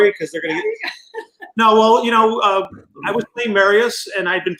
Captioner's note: laughs